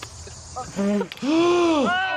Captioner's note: inhales sharply